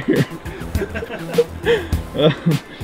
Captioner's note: laughing